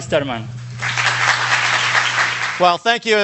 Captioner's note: audience applauds